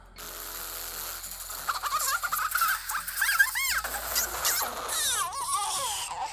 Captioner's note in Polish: śmiech